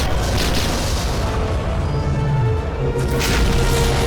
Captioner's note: gunfire